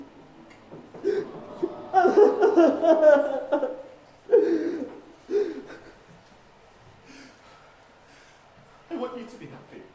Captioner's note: Hamlet crying